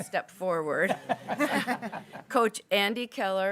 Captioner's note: people laughing